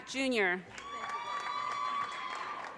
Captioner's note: audience cheers and applause